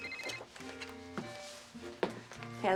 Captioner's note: phone ringing